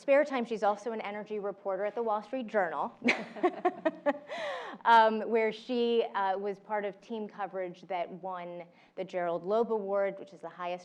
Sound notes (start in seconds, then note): 3.1 laugh